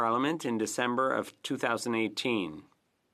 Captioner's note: speaking French